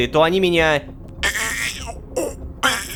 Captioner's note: quack; quack-quack